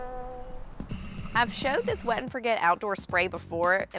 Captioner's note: wah-wah-wah!